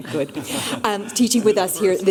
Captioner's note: laughter